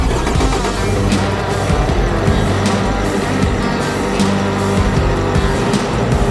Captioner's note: Bobcat rumbles; upbeat metal rock music